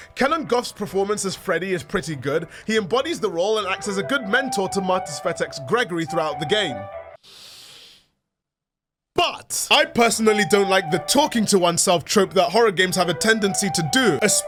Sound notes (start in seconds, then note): 7.2 inhale